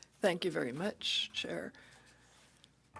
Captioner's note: speaking French